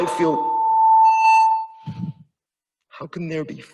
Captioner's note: speaker system ringing